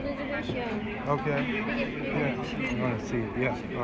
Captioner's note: chatter